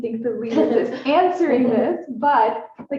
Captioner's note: laughs